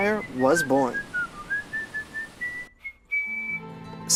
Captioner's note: whistling